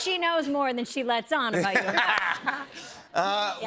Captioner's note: laughter